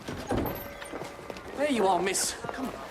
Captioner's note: door opens